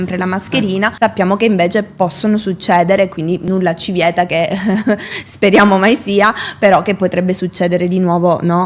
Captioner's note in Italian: risate